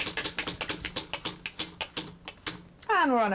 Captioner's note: wheel spinning